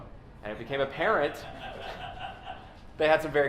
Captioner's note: laughter